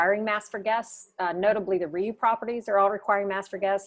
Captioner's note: voice muffled